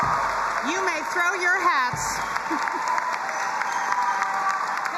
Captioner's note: audience applauding and cheering; chuckles